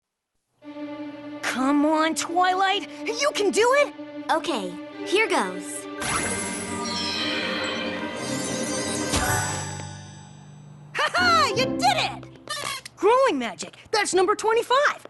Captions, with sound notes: Come on, Twilight. You can do it. Okay. Here goes. [ Tinkling ] [ Tinkling ] [ Ding! ] Ha ha! You did it! Growing magic -- That's number 25.